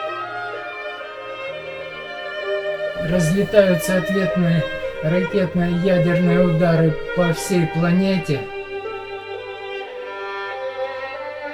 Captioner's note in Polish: Aplauz